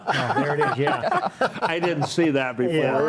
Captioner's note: laughs